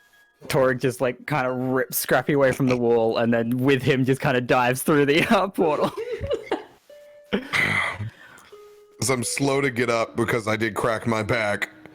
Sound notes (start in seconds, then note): 5.7 laughs; 7.3 sighs